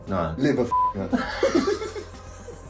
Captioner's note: beep; both laughing